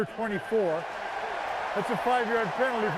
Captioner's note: crowd cheering